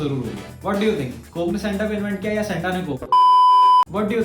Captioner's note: beep